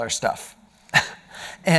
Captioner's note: laughing